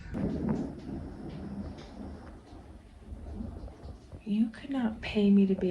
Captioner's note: thunder